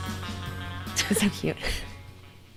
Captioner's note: laughs